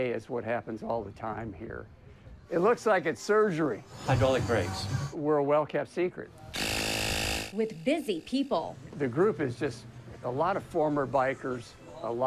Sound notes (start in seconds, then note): 6.5 tool whirs